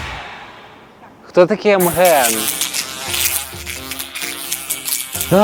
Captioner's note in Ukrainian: на задньому фоні набридливо дзижчить муха